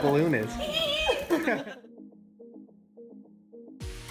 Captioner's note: giggling